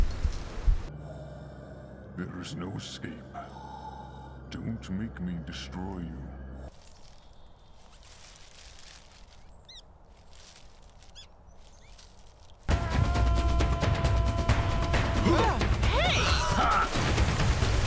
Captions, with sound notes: - There is no escape. Don't make me destroy you. (rustling) (squeaking) (rhythmic percussive music) (yelling) - Hey! - Aha.